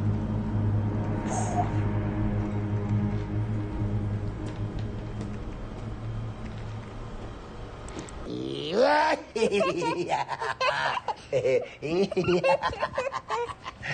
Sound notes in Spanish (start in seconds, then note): 8.3 Gruñidos; 9.3 Risas